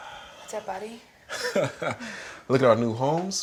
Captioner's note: Reed laughing